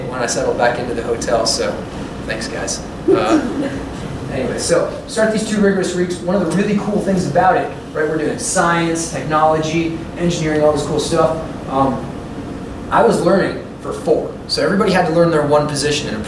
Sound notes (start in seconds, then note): 3.1 laughter